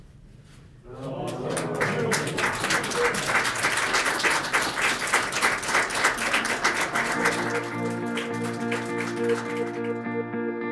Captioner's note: applause